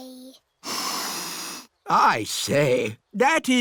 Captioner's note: sniffs